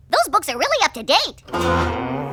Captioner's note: groans